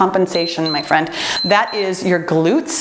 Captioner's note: timer beeps